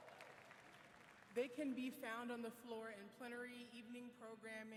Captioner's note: applause